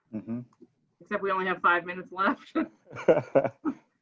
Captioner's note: laughs